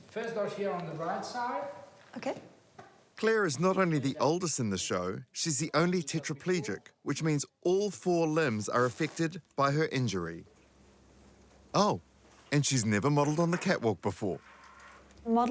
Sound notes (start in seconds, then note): none